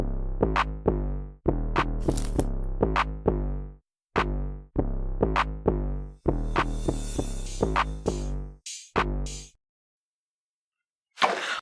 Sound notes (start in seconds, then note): 2.0 branches snapping outside; 9.5 music stops abruptly